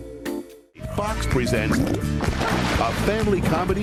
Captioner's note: farts